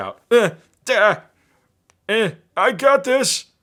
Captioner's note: grunting